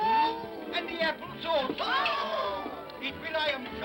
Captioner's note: excited vocal sounds; excited vocal sounds